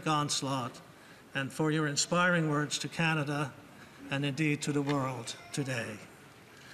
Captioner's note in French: voix de l'interprète